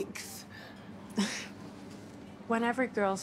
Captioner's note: sighs